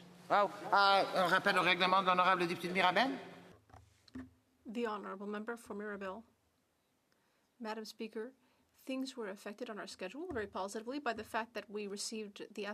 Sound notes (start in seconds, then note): 7.9 speaking French